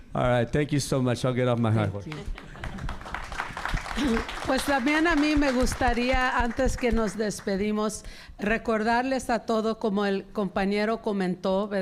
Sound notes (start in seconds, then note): 3.2 audience applauding; 5.7 speaking in Spanish